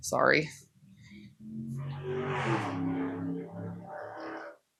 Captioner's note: car loudly driving